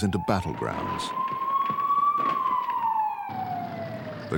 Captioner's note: sirens wailing